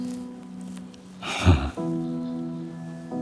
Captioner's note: sighs